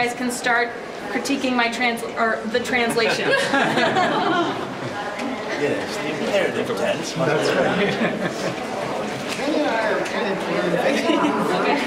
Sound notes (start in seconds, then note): 2.8 laughing; 5.7 group chatting